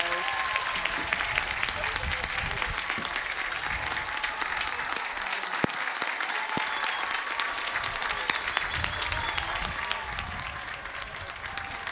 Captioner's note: cheers and applause